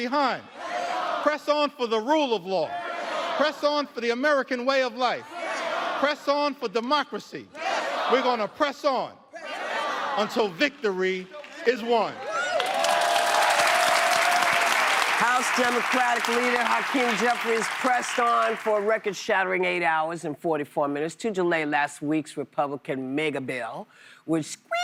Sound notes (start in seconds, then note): 19.2 applause